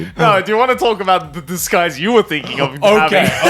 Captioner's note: laughing